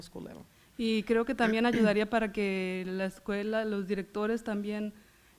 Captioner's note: foreign language